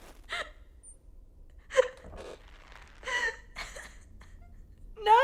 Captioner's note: girl cries